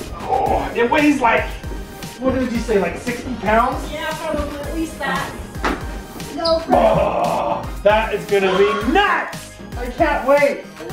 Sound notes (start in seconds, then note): 0.0 grunting; 6.4 groans